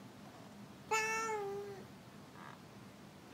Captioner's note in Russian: Кошачье мяуканье